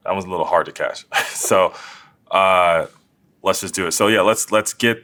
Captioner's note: laugh